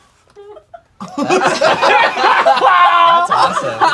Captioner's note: crowd laughing